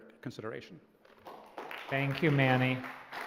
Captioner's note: applause